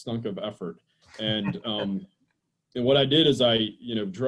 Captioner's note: laughs